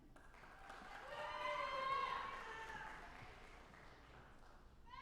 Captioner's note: audience applauding